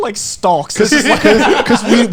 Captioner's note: laughing